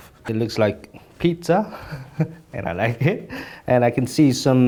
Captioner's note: laughs